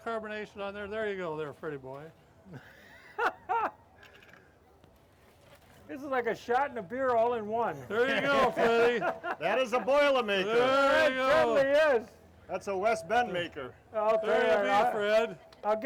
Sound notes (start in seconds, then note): 3.1 laughing; 7.9 laughing